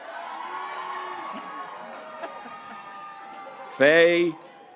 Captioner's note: graduates cheering